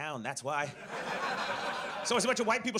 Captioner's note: audience laughs